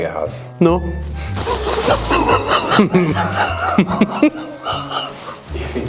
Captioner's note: laughter